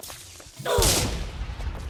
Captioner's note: Golem goes BOOM